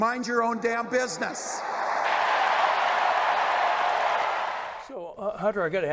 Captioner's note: crowd cheering